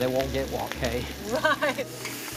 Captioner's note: laughs